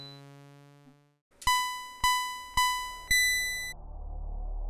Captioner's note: race start signals from Pitstop